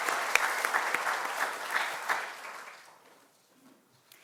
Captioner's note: audience applauding